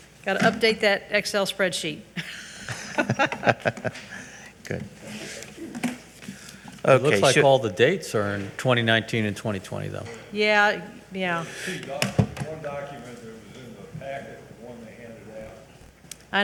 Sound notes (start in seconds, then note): 2.2 both giggle